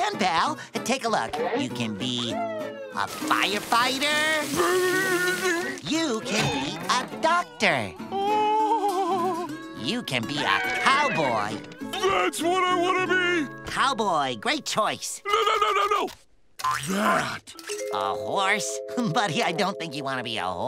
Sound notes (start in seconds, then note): 8.1 whimpering; 18.3 chuckles